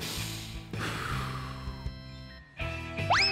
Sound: inhales and exhales deeply

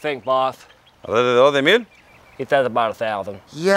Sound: speaking in foreign language

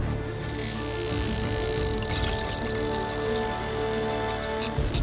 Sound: dramatic music playing; dolphins clicking

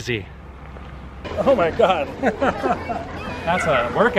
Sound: laughter

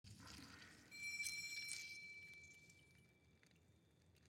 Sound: doorbell rings

